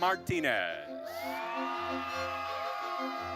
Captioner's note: audience cheering and applauding; orchestral music